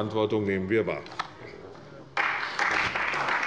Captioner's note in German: Beifall bei der CDU und dem BÜNDNIS 90/DIE GRÜNEN